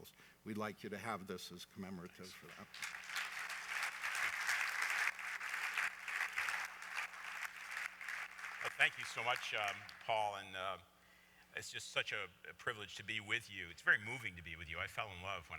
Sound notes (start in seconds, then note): 7.0 applause